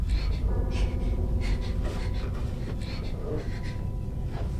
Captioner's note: Sua gasps